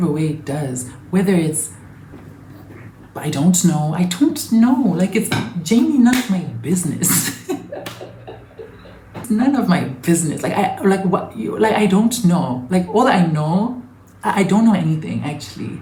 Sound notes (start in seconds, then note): 7.1 chuckles